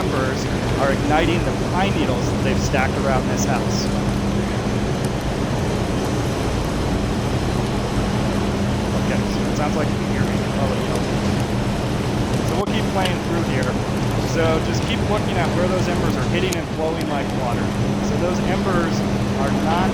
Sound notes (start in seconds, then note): 3.8 machine blowing